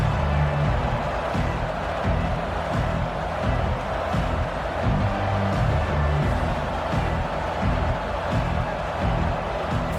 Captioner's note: crowd Noises